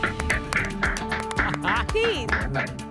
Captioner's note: applause